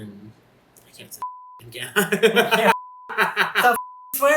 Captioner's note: dies laughing